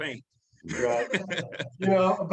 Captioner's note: laughs softly